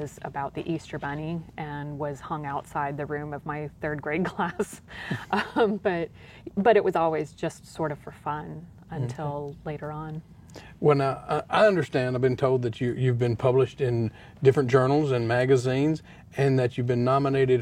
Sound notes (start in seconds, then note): 5.0 laughter